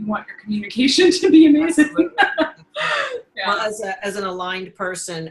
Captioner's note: laughing